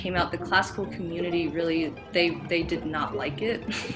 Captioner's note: giggles